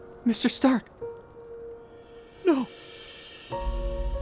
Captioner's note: sobs